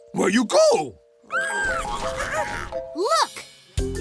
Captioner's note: squealing